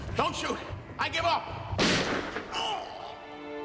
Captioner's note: gun fires; sad music; grunts